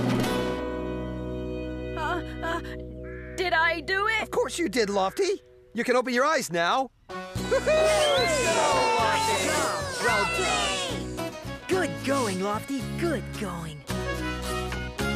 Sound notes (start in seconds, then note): 7.4 All Cheering Lofty